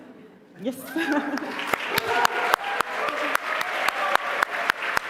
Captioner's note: applause